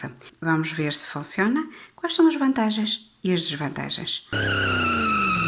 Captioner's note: car skidding sound